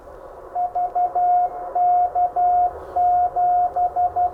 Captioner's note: electronic beeping